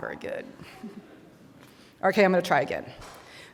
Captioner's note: audience laughing